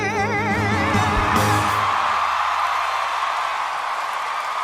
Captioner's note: cheering, applause